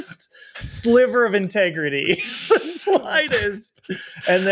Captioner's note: chuckles